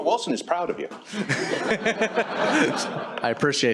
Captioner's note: laughter